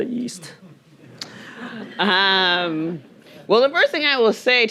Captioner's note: audience chuckling